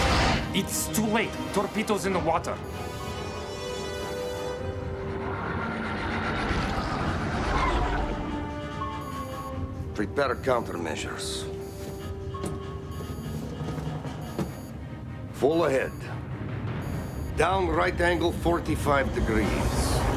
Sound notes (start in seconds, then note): 6.9 tire squeal